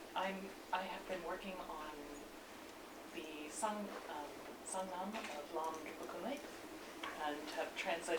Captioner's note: non-english speech